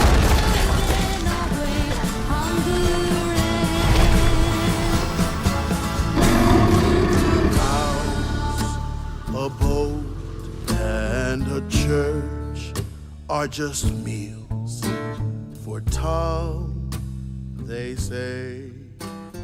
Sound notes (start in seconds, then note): 0.0 music intensifying; 6.2 roaring; 9.4 man singing